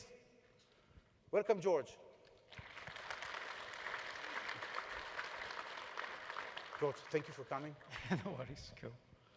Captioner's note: applause